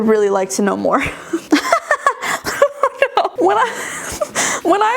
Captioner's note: giggling